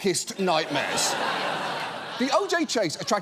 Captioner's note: studio audience laughs